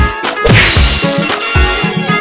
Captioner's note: crash!